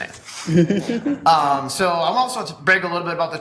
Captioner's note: colleague laughs